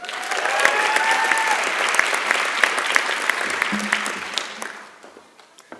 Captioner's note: applause and Cheering